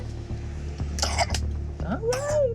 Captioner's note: coughing